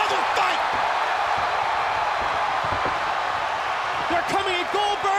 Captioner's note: crowd cheering continues